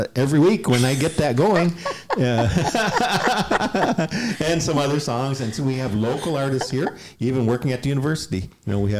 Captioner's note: laughter